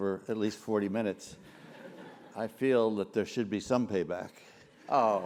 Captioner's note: laugh